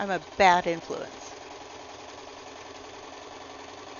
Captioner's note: sewing machine